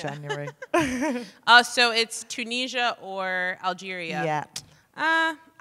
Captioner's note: chuckles